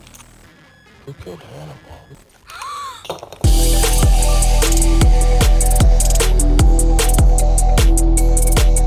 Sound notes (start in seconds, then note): 2.5 shocked gasp